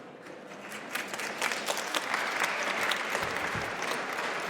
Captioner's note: audience applauds